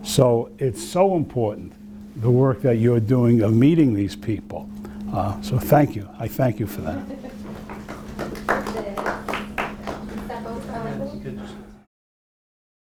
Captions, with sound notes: So it's so important the work that you're doing of meeting these people so thank you, I thank you for that. (applause)